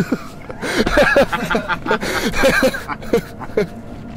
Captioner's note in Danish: Both laughing